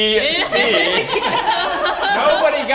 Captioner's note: laugh